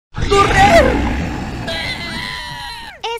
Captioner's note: more screaming in Spanish